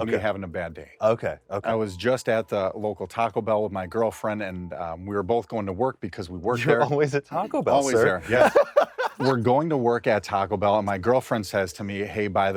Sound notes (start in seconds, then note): 8.2 laughs